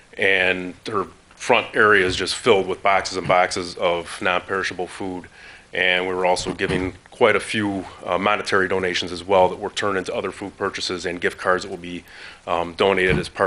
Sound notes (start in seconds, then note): none